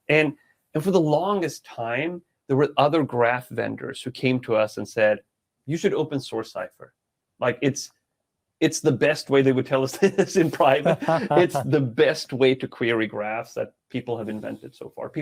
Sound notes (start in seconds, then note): 8.7 laughing